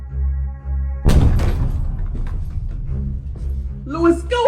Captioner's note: doors booming